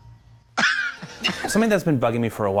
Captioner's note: laughs